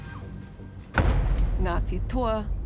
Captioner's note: bang echoes